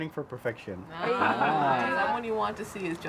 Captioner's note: family laughs